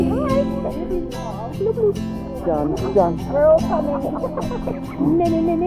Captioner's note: family chatting and laughing